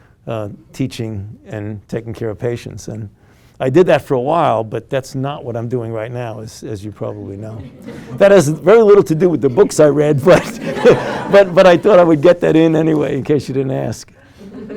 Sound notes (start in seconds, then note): 7.3 students laugh quietly; 8.9 students laugh